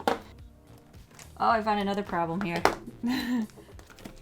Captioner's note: laughs